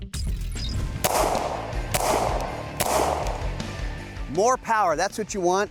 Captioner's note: gun firing